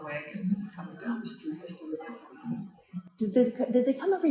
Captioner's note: chuckles